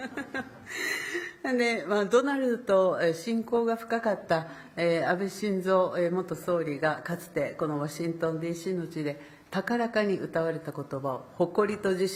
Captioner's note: speaking Japanese